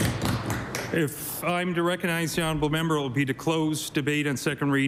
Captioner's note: applause